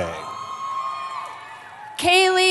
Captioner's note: cheering